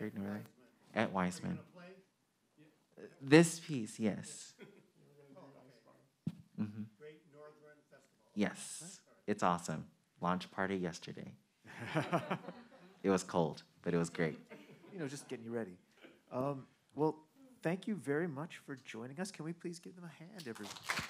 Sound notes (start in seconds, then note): 11.7 men laughing; 11.7 audience laughing